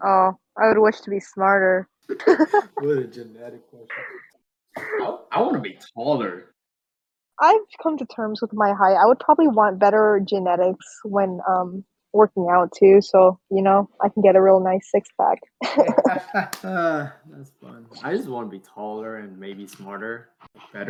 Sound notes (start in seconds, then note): 2.1 laugh; 15.6 laugh